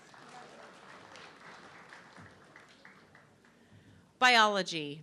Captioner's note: audience clapping